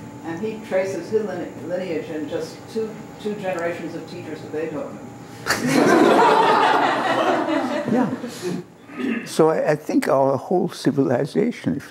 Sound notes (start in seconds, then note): 5.4 laughter